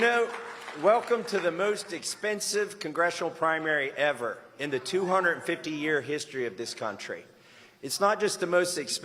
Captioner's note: applause